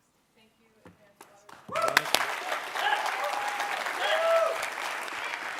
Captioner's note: cheers and applause